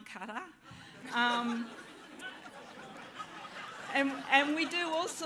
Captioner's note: laughter